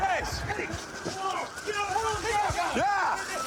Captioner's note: officers yelling